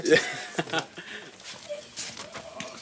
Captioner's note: laughter